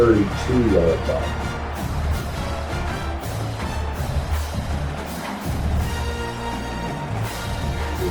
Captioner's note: crowd Noises